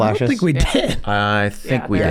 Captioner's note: laughs